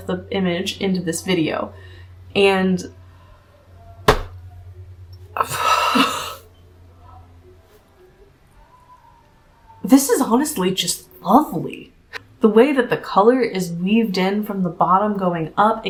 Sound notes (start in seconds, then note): 5.3 baffled noises